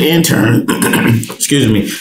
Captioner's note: clearing throat